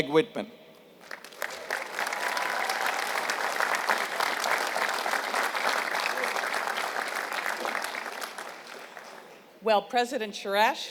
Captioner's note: applause